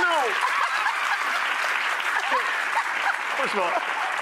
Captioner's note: laughing